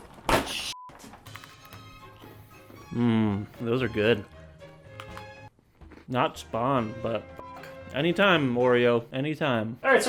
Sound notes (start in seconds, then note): 4.9 crunch